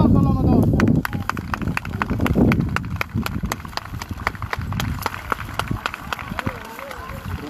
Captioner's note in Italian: Applauso